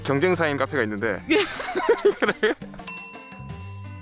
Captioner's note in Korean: 웃음